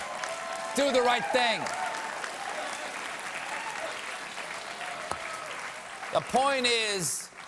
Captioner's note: applause